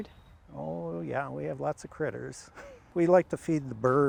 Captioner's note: laughs